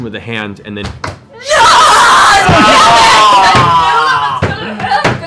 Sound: shouting

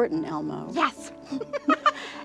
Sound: laughs

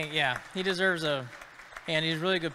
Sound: audience clapping

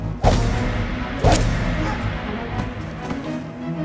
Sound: knife thuds

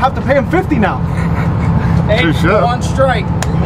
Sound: laughs

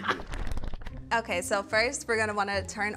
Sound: pages flipping

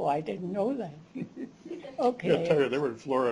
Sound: chuckles

